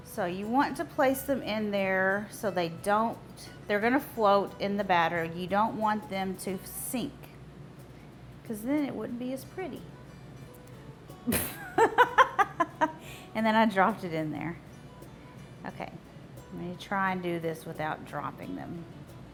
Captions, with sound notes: So you want to place them in there. They're going to float in the batter and you don't want them to sink 'cause then it wouldn't be as pretty. (laughs) And then I dropped it in there. Okay, let me try and do this without dropping them.